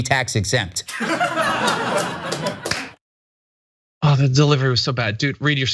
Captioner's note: laugh